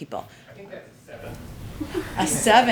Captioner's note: laughter